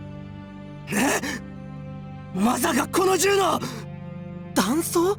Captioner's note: gasp